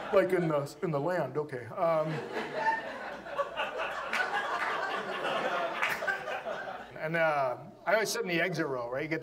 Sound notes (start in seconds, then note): 1.9 audience laughs